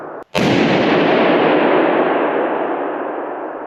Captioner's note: balloon banging